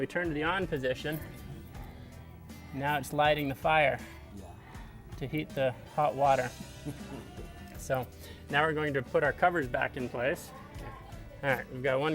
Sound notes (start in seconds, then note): 6.6 man laughs